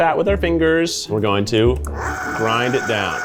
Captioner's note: food processor whirring